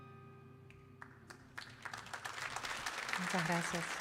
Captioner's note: audience applauding